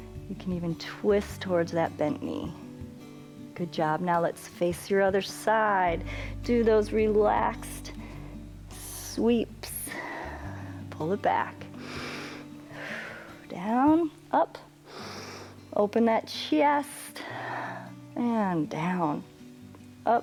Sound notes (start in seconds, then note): 9.6 exhales; 11.8 inhales and exhales; 12.6 inhales; 17.7 exhales